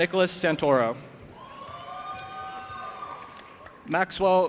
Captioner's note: audience applauding and cheering